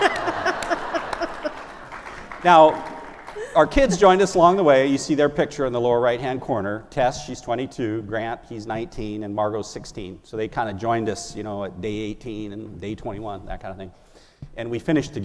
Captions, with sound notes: have spent 34 days, all day long, every meal, all night long, every night with your wife (Laughter.) » -- or your spouse. If you're interested in a marriage